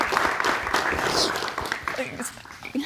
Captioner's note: sobbing